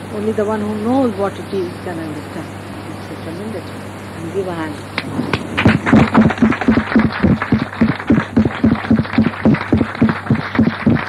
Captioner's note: applause